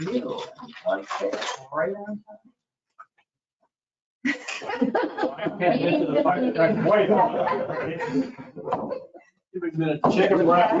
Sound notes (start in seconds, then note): 4.2 people laughing; 4.3 people chattering